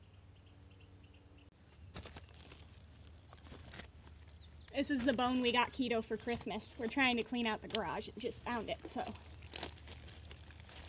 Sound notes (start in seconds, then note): 3.2 foot steps; 8.8 plastic ripping